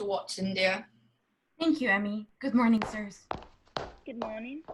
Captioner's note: footsteps